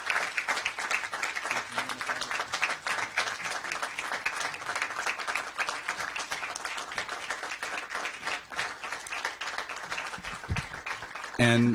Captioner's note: applause